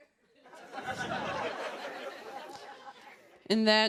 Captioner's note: laughter